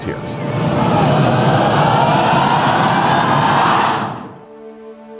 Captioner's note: crowd cheering; somber music